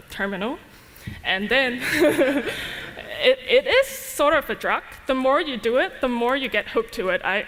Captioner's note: laughter